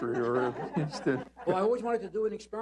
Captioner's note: laughter